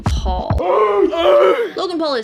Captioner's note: grunting